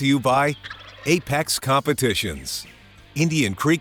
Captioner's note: turkey gobbling